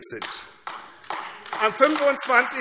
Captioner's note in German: Beifall AfD